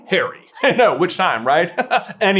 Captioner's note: chuckle